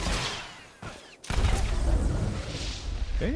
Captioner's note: explosion